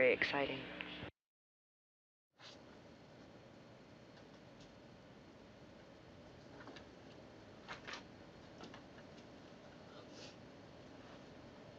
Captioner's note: silence